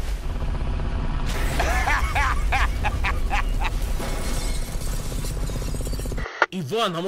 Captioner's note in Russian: взрывы, разрушения, злорадный смех